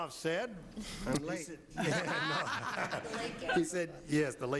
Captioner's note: laughing